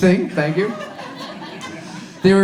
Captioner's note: audience laughs